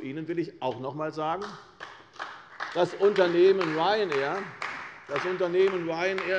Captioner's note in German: Beifall bei der CDU und der FDP